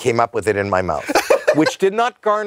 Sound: laughs

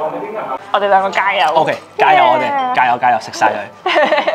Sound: foreign language

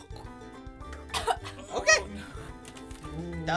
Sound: coughing

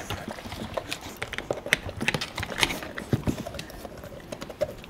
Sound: crunching

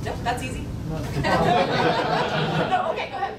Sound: laughing

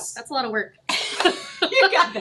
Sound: chuckles

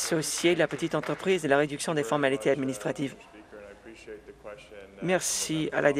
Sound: some Applause

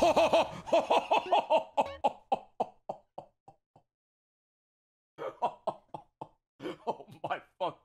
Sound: laughs

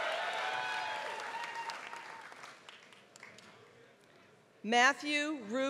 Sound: applause

